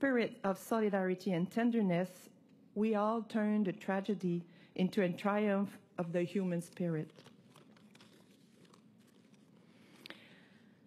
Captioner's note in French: voix de l'interprète